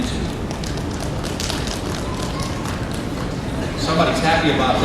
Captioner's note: applause